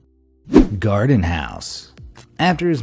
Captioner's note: graphic whooshing